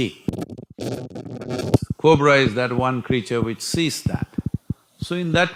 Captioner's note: audio disturbance